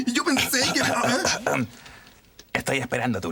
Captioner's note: clears his throat